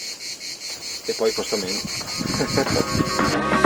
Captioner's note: laugh